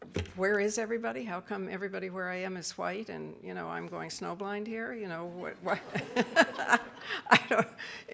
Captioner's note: audience laughs